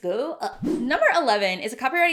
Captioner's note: swishing